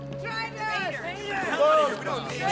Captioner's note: people yelling angrily